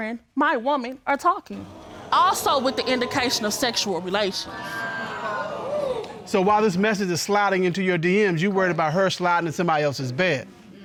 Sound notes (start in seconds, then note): 4.7 audience exclaims in surprise